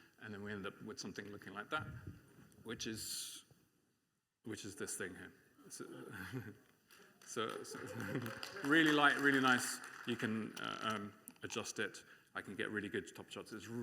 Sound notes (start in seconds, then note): 6.9 applause